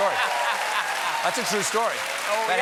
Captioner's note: cheers and applause